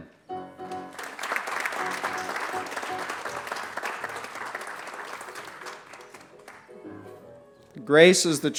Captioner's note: applause